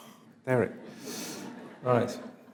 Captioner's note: audience laughs